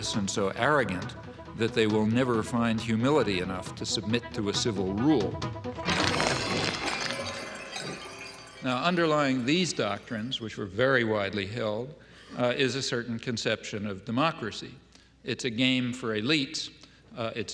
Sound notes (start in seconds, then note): 5.8 objects clattering; 6.1 dramatic music